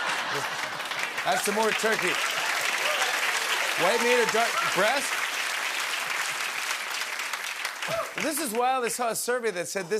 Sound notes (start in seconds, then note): 5.1 applause